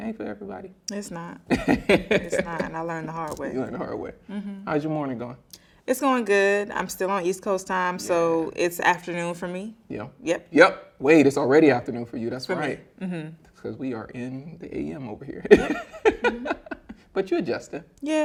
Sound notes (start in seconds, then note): 15.4 laughing